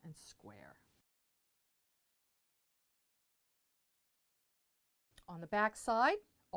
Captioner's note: no Sound Present